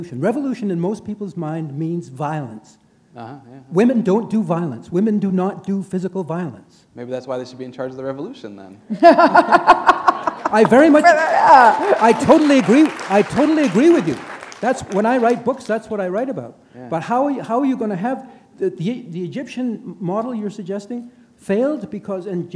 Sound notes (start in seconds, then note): 8.9 laughter; 13.6 applause